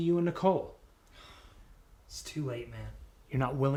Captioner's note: sighs